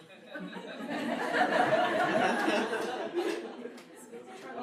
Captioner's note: audience laughing